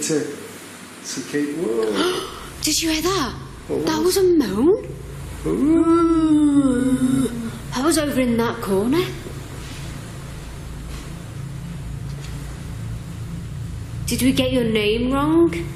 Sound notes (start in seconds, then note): 1.9 gasping; 5.4 both moaning